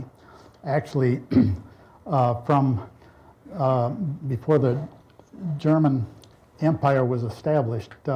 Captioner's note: clears throat